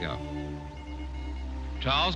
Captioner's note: beeping continues